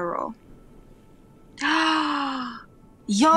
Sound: gasp

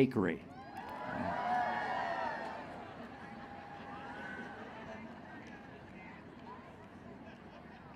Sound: cheering

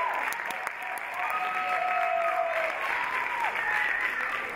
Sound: audience cheer; audience applaud

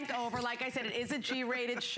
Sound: laughter

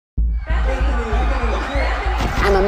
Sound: crowd cheering, screaming

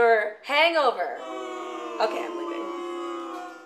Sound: crowd boos

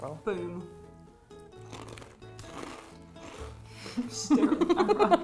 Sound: crunching

